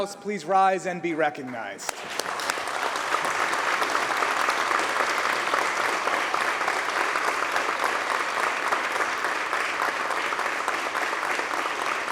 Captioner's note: applause